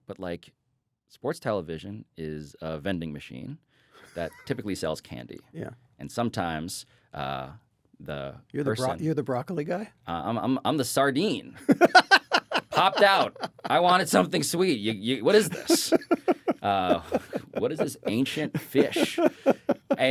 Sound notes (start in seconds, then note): 11.6 laughs; 15.2 chuckles